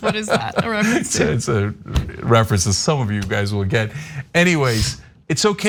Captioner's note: laugh